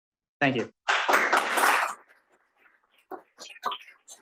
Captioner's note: applause